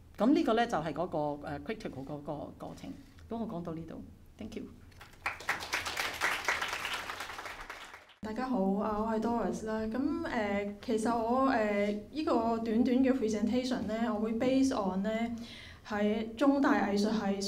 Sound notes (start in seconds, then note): 5.0 audience applause; 8.7 Cantonese